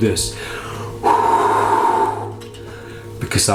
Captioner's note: blows